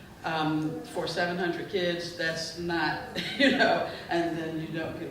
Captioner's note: chuckling